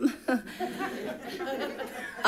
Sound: people laugh

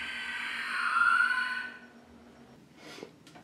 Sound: screeching stops

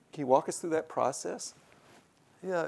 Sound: none

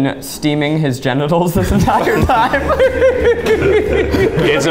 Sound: laughs

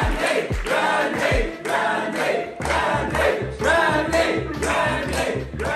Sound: crowd

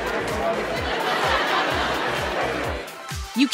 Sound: laughter

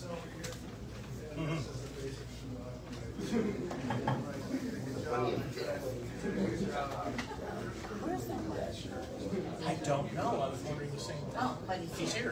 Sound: indistinct chatter

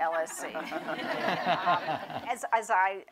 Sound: laughter

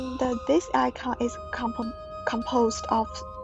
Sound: none

